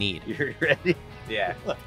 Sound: laughing

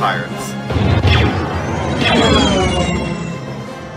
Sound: lasers fire

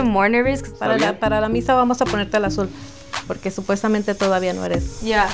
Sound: speaks in foreign language

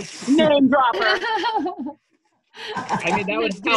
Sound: laughter

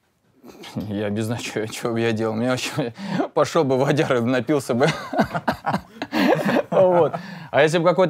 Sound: both laugh

